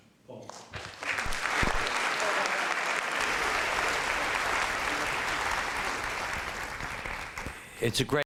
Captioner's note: applause